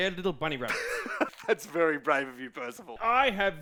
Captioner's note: chuckles